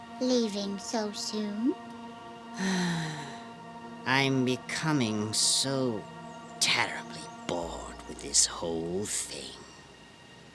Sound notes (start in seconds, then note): 2.6 sigh